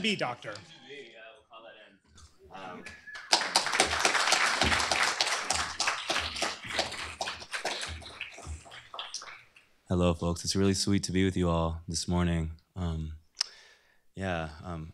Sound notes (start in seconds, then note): 2.9 applause